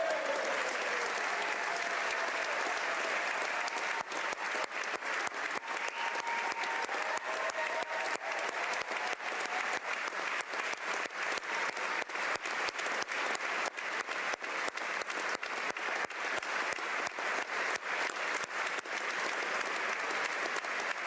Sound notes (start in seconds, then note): 3.9 applause; 4.3 cheers